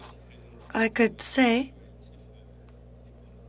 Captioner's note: speaking French